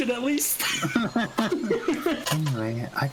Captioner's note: laughter